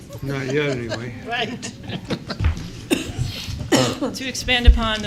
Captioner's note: laughter